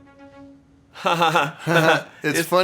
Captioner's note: pained laugh